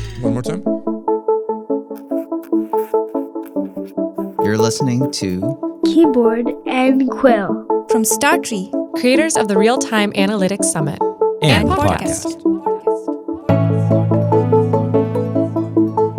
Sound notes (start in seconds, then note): 0.0 people laughing; 1.9 pencil scratching; 2.2 bright music; 12.6 bright music